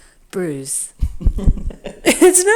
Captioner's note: chuckles